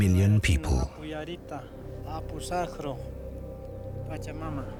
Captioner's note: speaking Quechuan